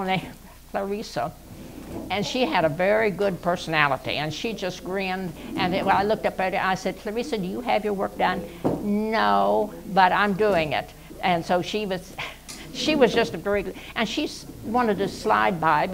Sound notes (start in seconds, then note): 8.5 mimicking a child's voice; 11.7 laughs